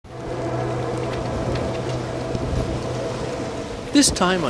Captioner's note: tense music; rain pattering